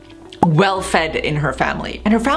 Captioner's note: drawing popping